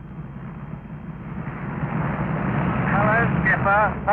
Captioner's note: engines revving